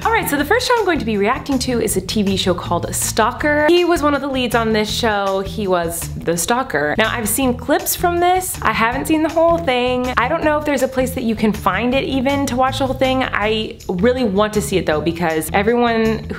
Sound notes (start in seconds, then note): none